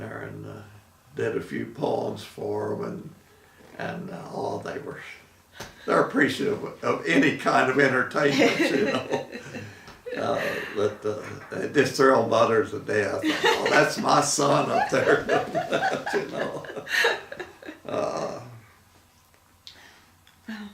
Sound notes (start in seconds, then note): 10.0 laughing; 14.5 laughing